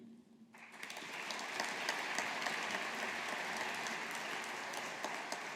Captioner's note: audience applauding